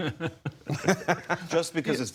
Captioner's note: laughter